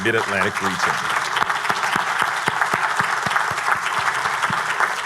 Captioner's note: everyone applauding